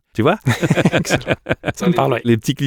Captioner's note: laughter